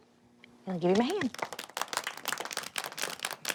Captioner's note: applause